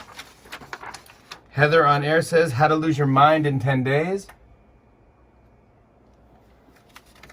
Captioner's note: none